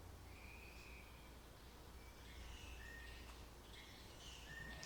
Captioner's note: birds chirping